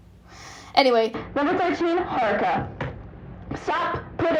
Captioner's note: loud filter starts again